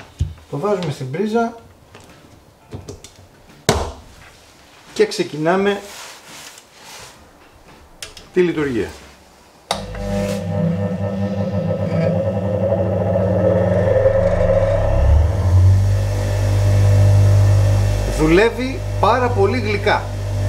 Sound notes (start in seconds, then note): 9.7 electric motor start sound